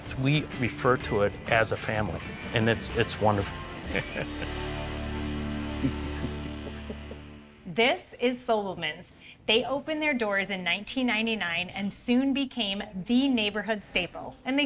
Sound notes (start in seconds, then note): 3.8 laughing